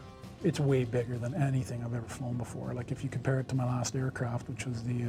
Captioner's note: voiceover